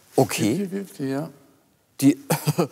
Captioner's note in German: Pierre lacht